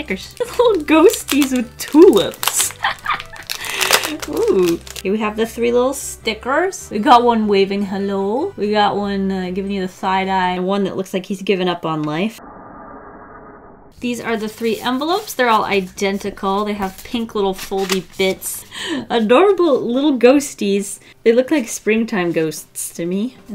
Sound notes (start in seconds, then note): 3.5 hahaha! Deep inhale; 12.4 creepy sound